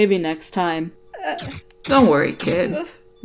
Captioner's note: KNOCKOUT whimpers